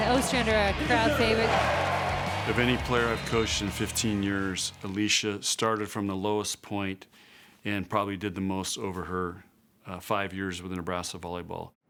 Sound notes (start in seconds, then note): 1.5 crowd cheering